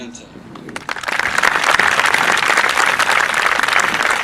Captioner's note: audience applauding